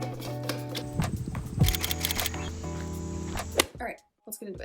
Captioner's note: typewriter